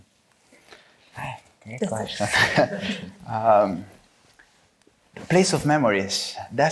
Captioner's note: chuckles